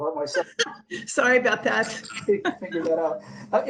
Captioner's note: laughing